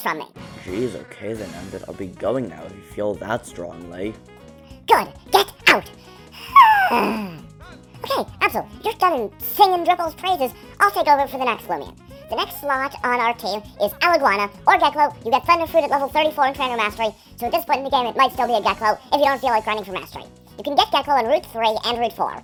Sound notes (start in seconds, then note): 5.8 sighs